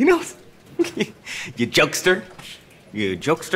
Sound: chuckles

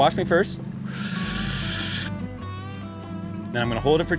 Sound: inhales

